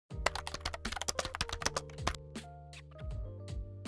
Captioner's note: gentle typing; light music